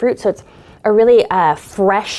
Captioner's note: deeply inhaling